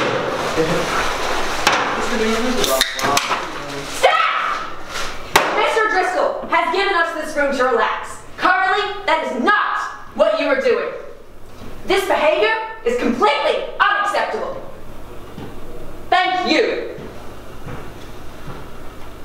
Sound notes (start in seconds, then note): 2.6 can cracking open; 5.3 box drops